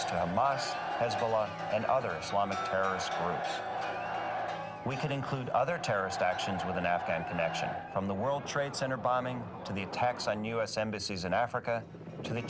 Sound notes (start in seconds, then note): 3.7 crowd cheering